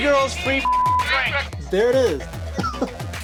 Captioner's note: beeps loudly; chuckles heartily